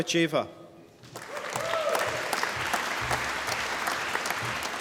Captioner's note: applause